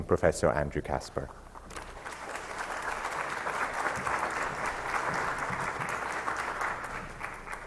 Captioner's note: applause